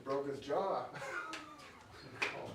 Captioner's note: both laughing